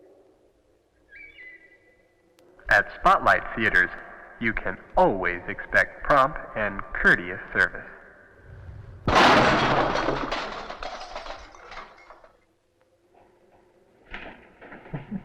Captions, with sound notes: - [Man On PA] At Spotlite Theatres you can always expect prompt and courteous service. (clattering)